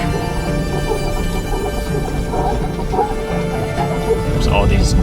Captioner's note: car rattling